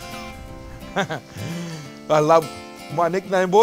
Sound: chuckles

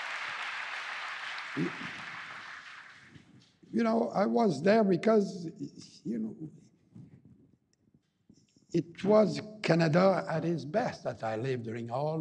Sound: applause

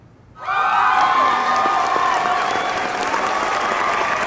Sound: audience cheers

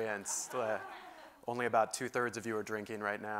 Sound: laugh

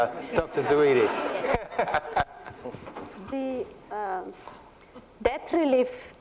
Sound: laughter

